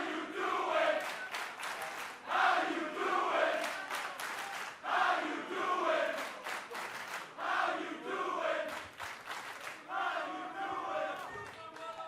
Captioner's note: fans chanting